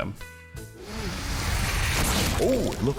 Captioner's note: inflating